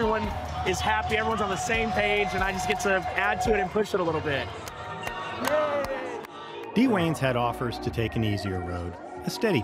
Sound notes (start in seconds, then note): 5.5 clapping and stadium sounds